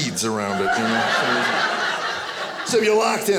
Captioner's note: audience laughing